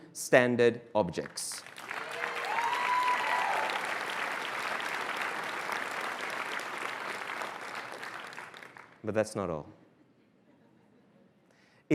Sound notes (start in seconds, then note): 1.6 cheers and applause